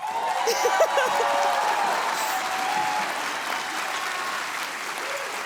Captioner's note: audience cheering